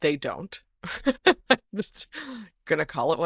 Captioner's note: laughs